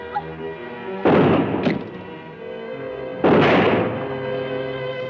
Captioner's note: gun firing